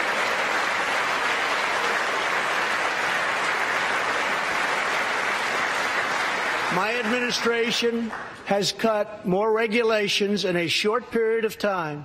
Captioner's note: applause